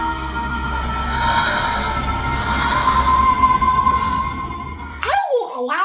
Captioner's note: C: sensual breathing; C: sensual gasping